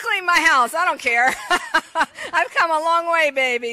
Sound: laughs

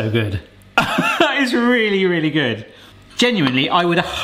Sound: laughs

